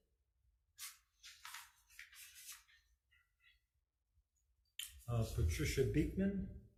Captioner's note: paper rustling loudly